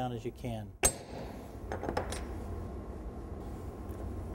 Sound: hammer and iron hitting table

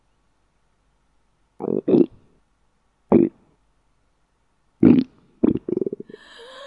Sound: growling sounds

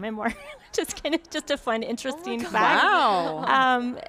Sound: laughs

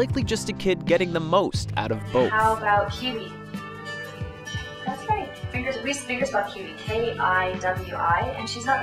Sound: woman speaking in English

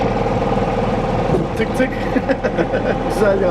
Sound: laughing

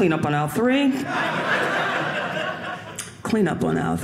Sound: audience laughing

